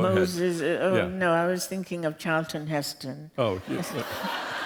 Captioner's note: laughter